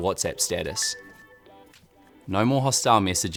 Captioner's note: notification dings